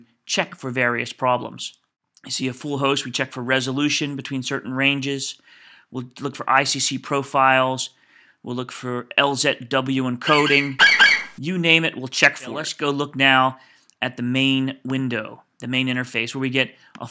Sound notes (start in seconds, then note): 10.2 FlightCheck eagle screeches